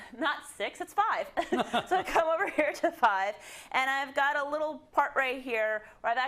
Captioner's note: laugh